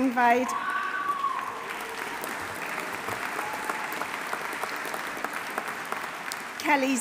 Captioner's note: audience cheering; audience applauding